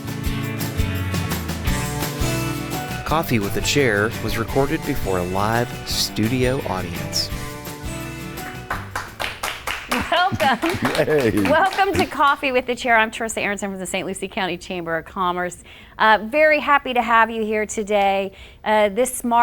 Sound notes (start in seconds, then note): 0.1 upbeat music; 8.3 audience clapping